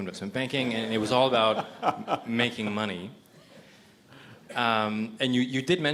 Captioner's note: everyone laughs